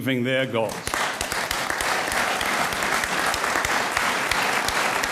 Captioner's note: audience applauds